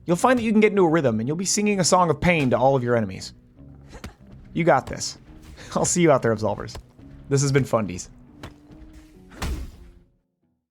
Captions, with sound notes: You'll find that you can get into a rhythm and you'll be singing a song of pain to all of your enemies. You got this. I'll see you out there Absolvers. This has been Fundies. [ Swoosh, Thud ]